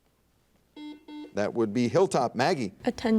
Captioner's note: buzzer dings